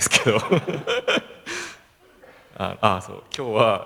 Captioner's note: laugh